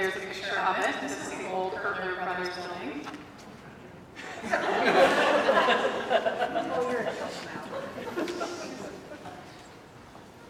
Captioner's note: laughter